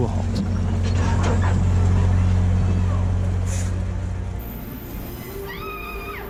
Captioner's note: train engine whirring; metal clanks; person yells